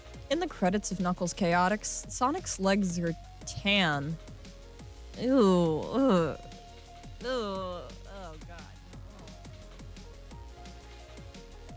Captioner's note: random grossed-out sounds